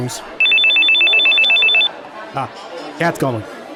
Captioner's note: phone rings